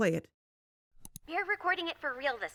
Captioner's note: click